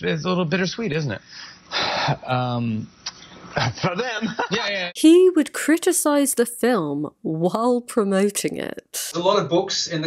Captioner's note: laughs